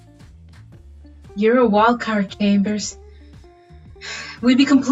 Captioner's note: sighs